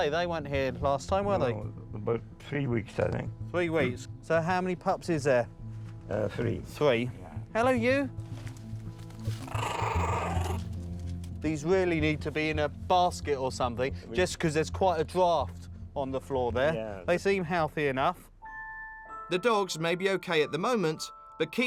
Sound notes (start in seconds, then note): 9.3 puppy growls